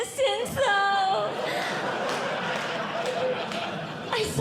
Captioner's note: audience Laughing